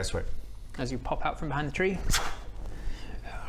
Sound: thwuu

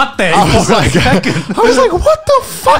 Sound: laughing loudly

